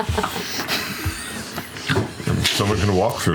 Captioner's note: laughter